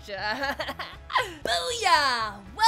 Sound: chuckling

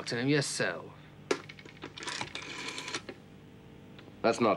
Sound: phone rattles

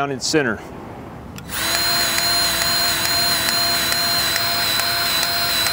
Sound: grease gun revving

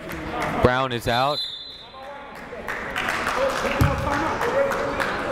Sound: whistle blowing

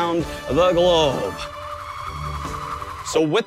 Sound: spinning sound

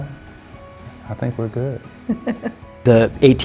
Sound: laughs

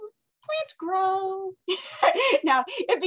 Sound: laughs

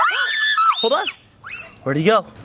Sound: screams

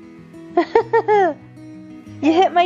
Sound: chuckles

